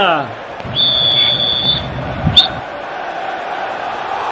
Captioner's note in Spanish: Suena silbato